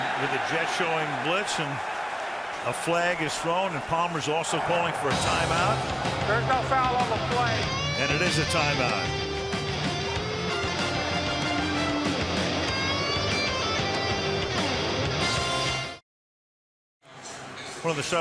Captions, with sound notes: And with the Jets showing blitz. And a flag is thrown. And Palmer's also calling for a timeout. [stadium announcements] And it is a timeout. [rock music]